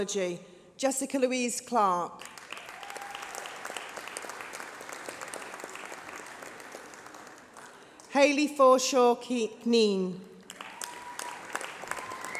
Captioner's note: applause